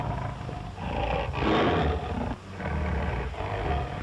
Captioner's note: roars